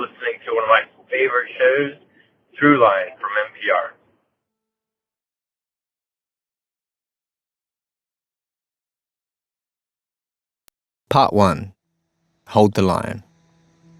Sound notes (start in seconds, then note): 8.5 chanting